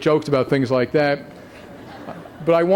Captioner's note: laughter